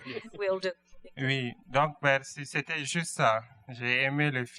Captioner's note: speaking french